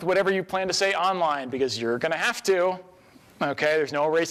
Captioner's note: singsong